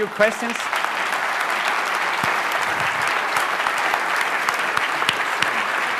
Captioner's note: applause